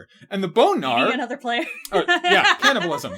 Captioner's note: laughing